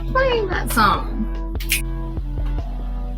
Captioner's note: snaps to the beat